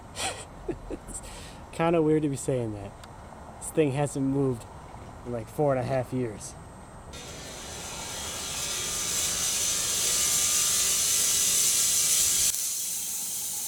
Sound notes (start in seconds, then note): 0.2 laughs; 7.1 saw whirring